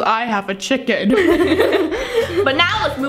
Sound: both laughing

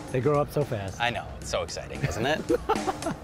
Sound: laughing; upbeat music

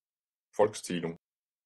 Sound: fast Pronunciation

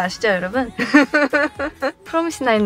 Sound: laughing

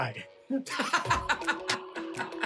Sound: laughter

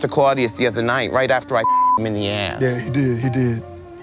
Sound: beep

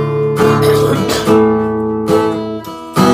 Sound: coughs

